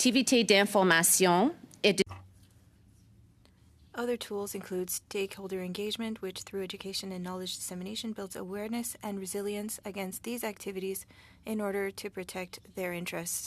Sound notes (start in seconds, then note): 10.3 speaking French